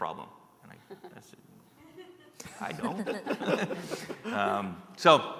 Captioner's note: laughter